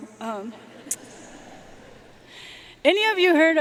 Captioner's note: audience laughing